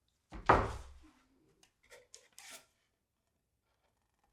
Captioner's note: wood thudding